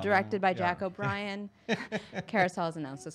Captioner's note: chuckles